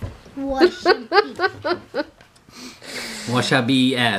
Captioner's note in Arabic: يضحك